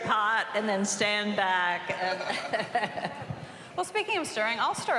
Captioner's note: laughs